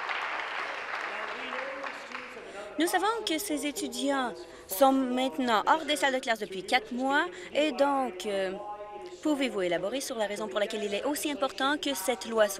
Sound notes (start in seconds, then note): 1.6 applause